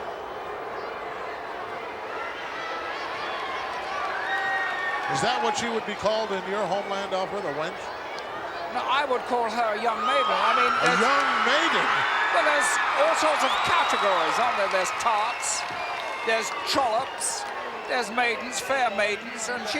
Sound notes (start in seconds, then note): 0.2 audience booing; 3.9 audience cheering